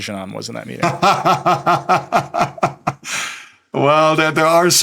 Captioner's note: laughing